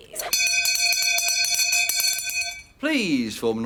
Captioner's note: loudly rings bell